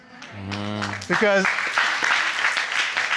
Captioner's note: crowd clapping